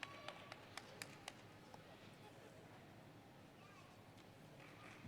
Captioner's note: applause